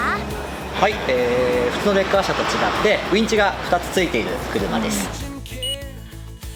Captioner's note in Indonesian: winch